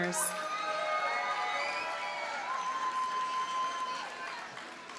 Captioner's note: audience cheers and applauds